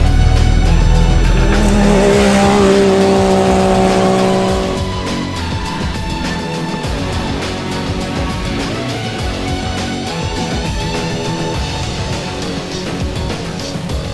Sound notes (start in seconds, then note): 1.7 engine revving; 6.7 upbeat music